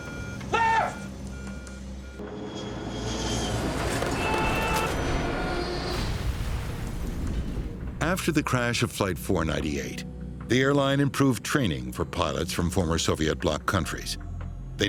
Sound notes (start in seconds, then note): 0.0 alarms beeping; 2.2 engines screaming; 6.1 loud explosion